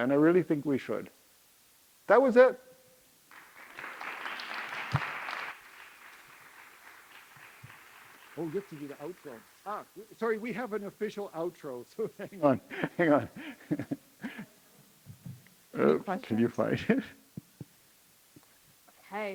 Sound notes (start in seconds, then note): 3.2 audience clapping; 12.0 laughs